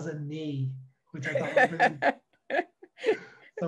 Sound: laughs

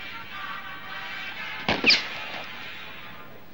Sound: gunshot

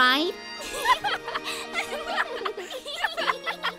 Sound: laughter

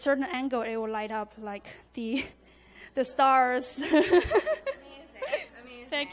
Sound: giggles

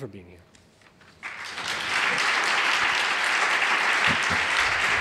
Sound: audience applauding

